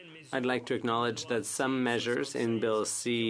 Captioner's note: speaking French